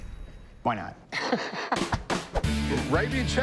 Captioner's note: laughs